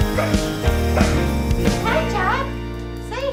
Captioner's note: dog barks